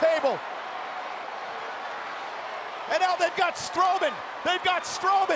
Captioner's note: applause